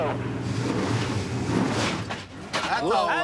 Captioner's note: engine clunking